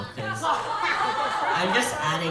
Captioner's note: audience laughing